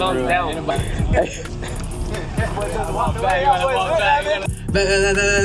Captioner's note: laughing